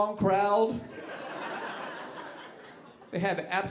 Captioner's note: audience laughing